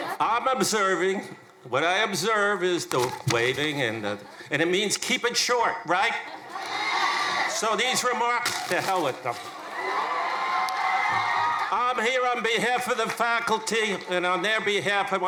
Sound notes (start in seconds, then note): 10.0 crowd cheering